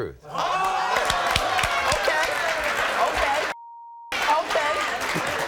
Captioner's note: beep